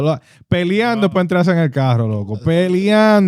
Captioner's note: speaking Spanish